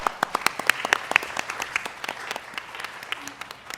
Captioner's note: applause